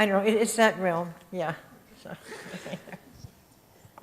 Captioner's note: chuckles